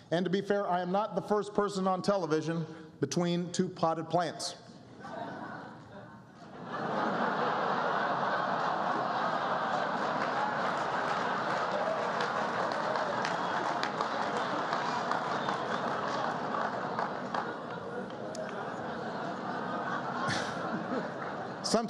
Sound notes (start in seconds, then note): 8.5 laughter and applause